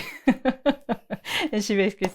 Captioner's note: laughs